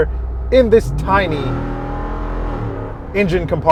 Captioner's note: engine revving